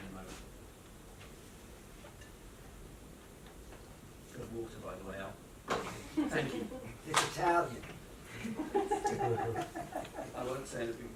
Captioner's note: laughter